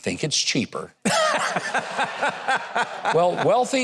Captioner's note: person laughs